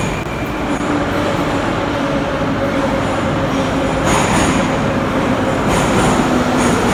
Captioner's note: arrival of train at the station